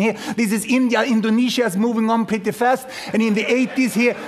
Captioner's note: laughter